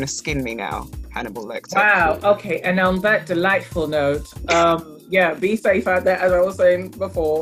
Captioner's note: laughs